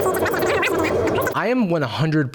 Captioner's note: fast-forwarded speech